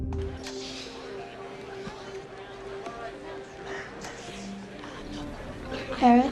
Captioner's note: background voices